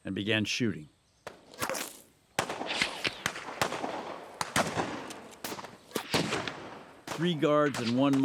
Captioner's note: gunfire